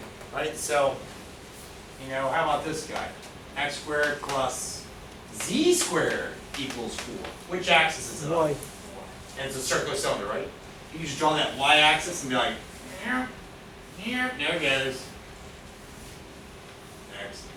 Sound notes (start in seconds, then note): 8.2 student mumbling